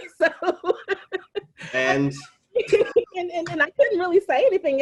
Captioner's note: laughing